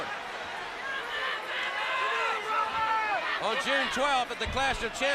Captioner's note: crowd chatter